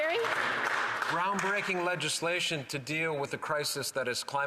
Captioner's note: applause